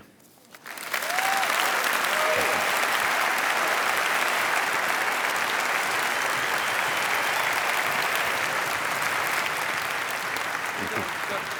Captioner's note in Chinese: 掌聲